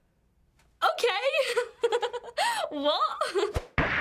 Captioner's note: laughs; gunshot, woman shrieks